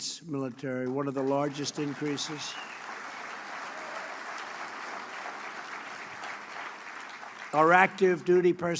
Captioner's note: applause